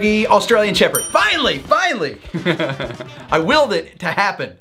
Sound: laughs

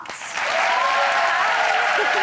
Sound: audience applauds

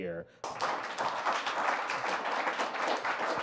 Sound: applause

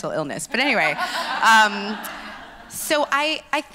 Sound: laughs

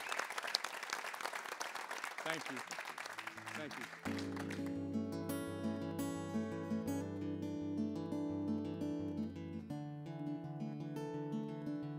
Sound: applause

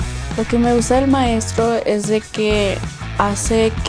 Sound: speaking Spanish

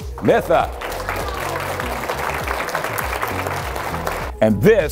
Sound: cheering and clapping

